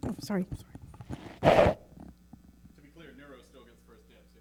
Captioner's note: mic squeaking